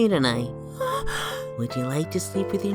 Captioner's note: gasps